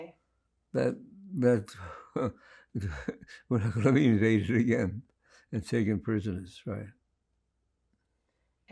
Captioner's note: laughing